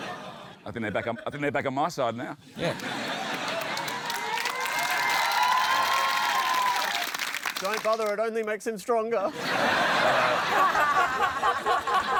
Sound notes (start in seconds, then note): 3.2 applause